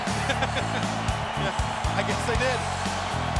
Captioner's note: laugh